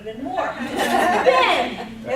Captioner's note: audience laughs